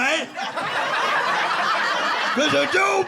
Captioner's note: audience laughing